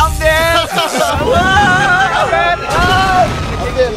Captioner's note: laughs; screams